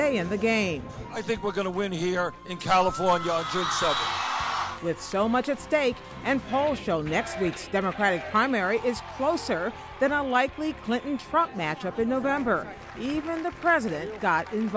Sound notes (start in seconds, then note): 2.4 cheers